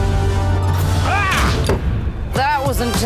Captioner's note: yells